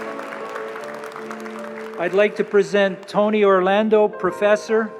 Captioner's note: applause